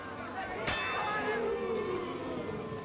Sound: gong

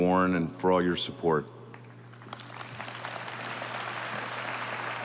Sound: audience applauding

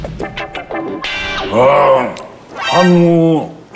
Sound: roaring

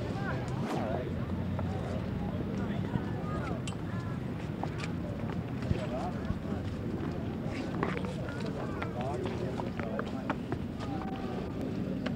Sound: ambient street noise

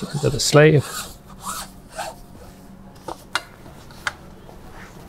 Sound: fabric scratching

